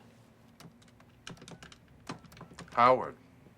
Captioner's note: phone beeps